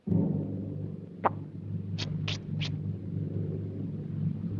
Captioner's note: Casper spitting